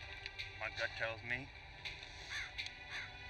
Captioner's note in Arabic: يتنفس بصعوبة